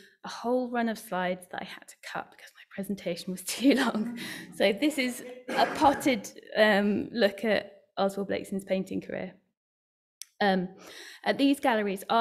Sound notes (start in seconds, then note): 4.6 laughing